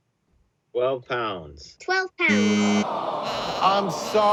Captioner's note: machine beeping